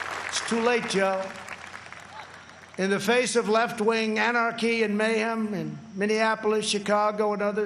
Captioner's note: applause